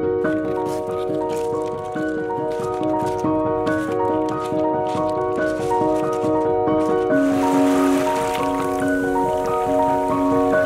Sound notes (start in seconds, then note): 0.3 footsteps with the piano; 4.3 footsteps continue